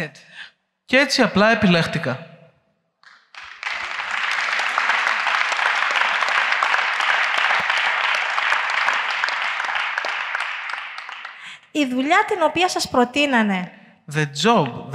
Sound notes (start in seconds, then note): 3.0 applause